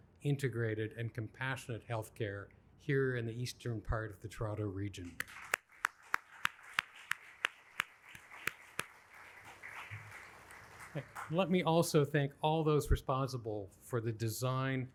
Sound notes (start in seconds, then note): 5.0 applauds; 6.7 audience applauding